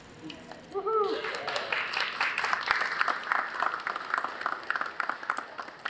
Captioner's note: applause